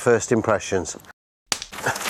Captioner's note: clapper